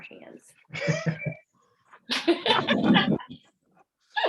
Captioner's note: all laugh